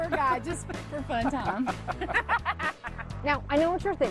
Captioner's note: laughs